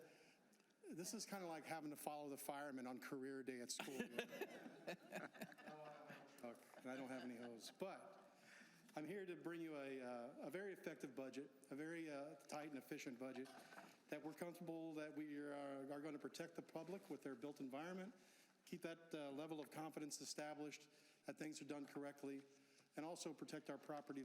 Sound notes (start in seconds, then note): 5.4 laughter